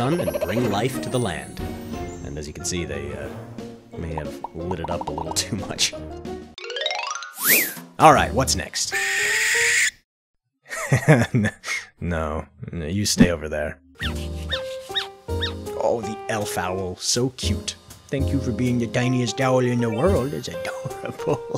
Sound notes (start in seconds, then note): 7.3 chime, whistle; 8.9 shrill, slow squawk; 10.5 laughs; 14.0 squeaky pips